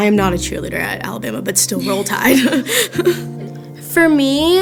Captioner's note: laughing